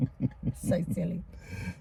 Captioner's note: laughing